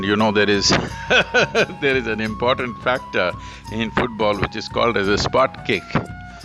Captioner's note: laughs